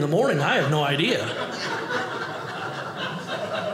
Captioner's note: audience laughing